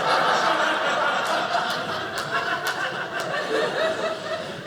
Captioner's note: audience laughing